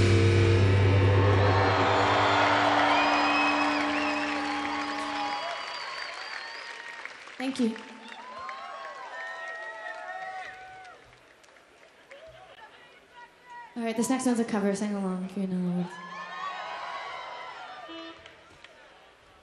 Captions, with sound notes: (audience applauding) (audience cheering) - Thank you. Okay, this next one's a cover. Sing along if you know it. (audience cheering)